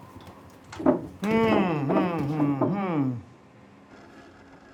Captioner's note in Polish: pomrukuje z zakłopotaniem